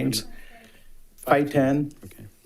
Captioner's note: member speaking faintly